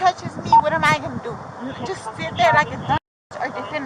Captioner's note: radio chatter